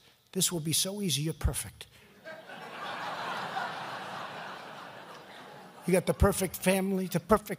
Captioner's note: laughter